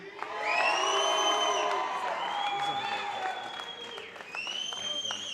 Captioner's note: applause